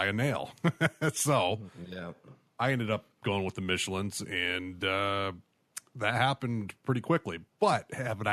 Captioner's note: chuckle